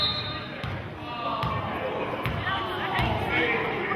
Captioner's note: whistling